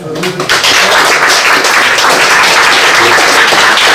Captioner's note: applause